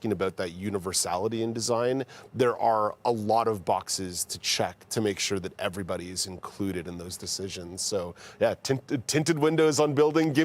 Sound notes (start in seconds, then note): none